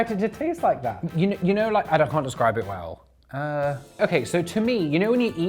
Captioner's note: groans